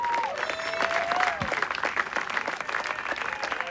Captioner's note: cheers and applause